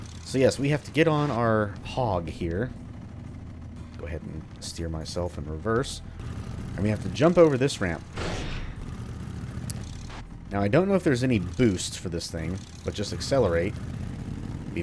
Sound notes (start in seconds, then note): 9.1 scrapes wall